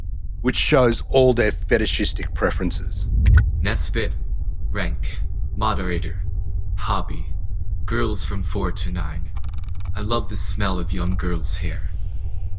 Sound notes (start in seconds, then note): 3.6 ai voice